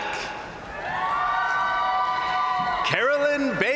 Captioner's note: crowd cheering; crowd applauding